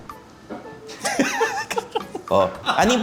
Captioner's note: laughs